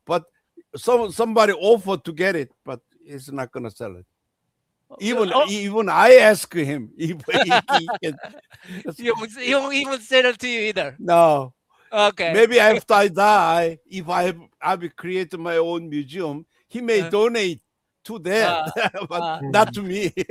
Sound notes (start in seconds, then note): 7.0 laughter